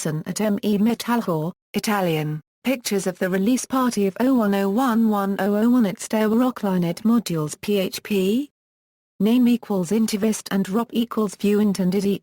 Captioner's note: Italian